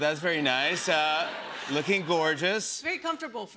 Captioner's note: laughter